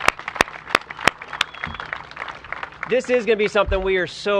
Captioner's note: applause